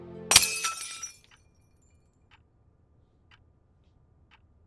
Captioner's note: glass shattering